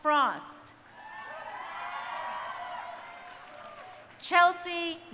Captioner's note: crowd cheering